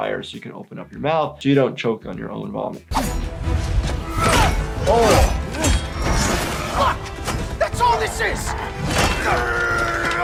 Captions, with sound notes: so you can open up your mouth, so you don't choke on your own vomit. (blows landing) - Oh! (characters grunting)